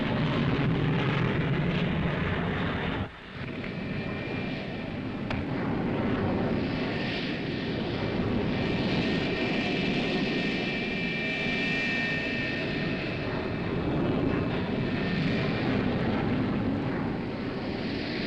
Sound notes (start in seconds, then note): 1.2 planes roaring